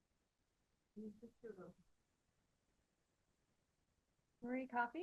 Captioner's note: speaks faintly